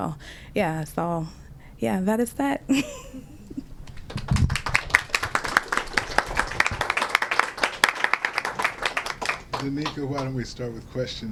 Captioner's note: laughter; applause